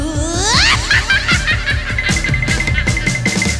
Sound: cackle

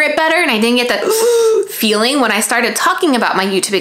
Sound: gasp

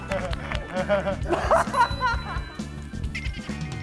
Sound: bursts out in laughter

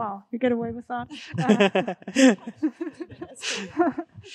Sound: all laughing

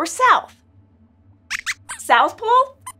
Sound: Squeaks answers

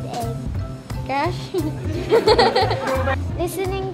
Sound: laughs

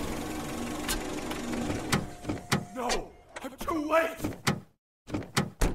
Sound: car doors open then close

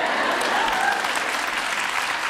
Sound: audience cheers and applause

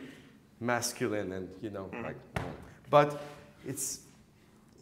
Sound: stomps foot

